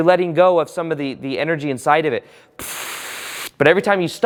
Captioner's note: blows out